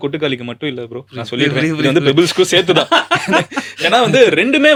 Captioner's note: group laughter